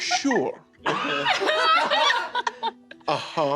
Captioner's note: laughter